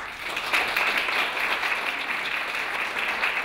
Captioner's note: clapping